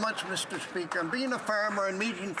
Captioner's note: some Applause